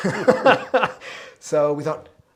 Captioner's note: both laughing